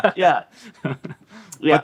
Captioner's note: chuckling